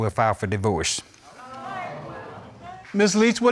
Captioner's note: crowd gasping